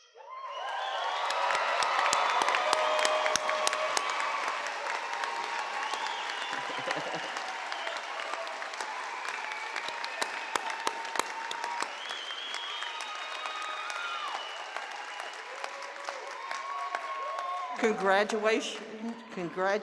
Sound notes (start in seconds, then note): 7.3 applause